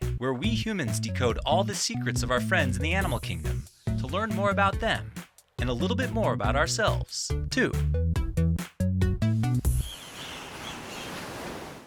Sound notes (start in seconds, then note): 9.7 birds tweet; 9.9 waves crash